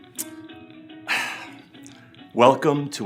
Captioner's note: sighing